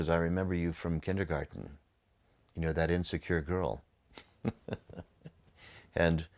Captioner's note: laughs